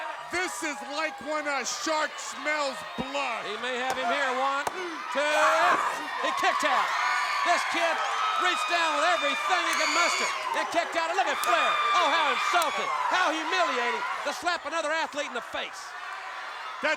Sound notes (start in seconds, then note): 3.8 hands thudding; 8.9 hands clapping